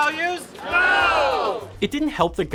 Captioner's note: crowd